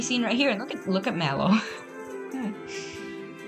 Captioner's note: chuckle